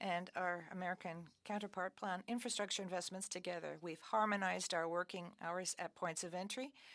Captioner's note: speaking French